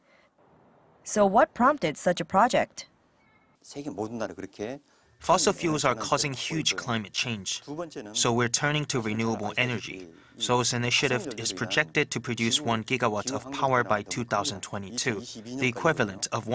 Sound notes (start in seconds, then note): 3.4 Korean